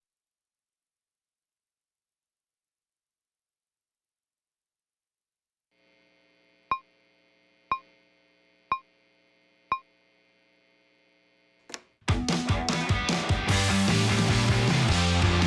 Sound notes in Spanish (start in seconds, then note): 6.4 beeping